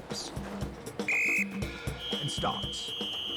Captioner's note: whistle tweeting